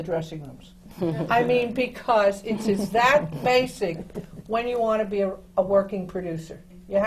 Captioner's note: laughter from the panel